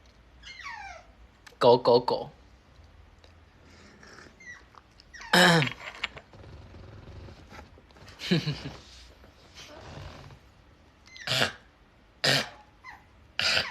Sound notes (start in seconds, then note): 3.4 ahEm